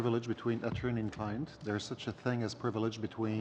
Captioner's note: speaking French